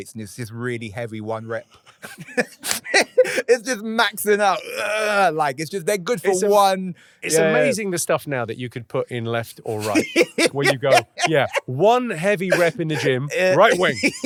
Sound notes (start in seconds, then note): 1.8 both laughing; 4.5 grunting